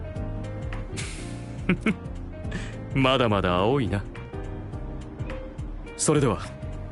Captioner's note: chuckle